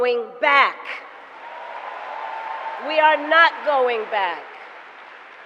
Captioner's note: applause